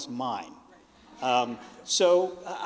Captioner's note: audience laughing